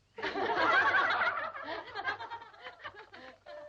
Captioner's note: girls laughing